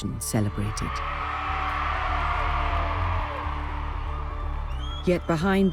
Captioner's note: crowd cheering; crowd applauding